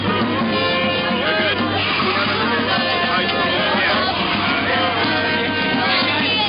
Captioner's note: ambient chatter